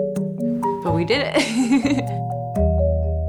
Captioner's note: laughing